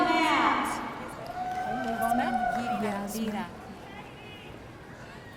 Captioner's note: audience cheering